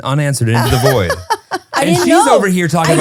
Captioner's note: laughs